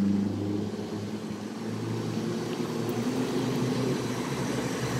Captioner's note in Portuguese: Sons de Motor